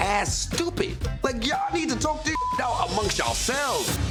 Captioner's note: beep